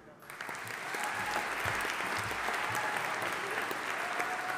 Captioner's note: audience applauding